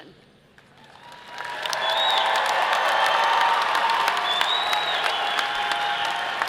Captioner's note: audience applauding and cheering